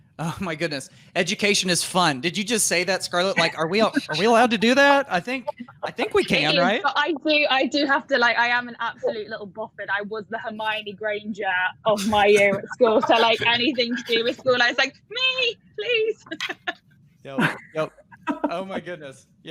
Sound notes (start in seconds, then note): 17.3 all laughing